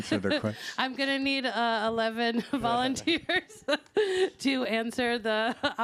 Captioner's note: laughs